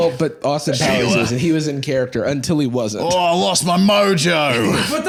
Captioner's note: Australian accent